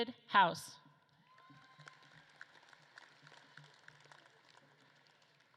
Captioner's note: audience claps and cheers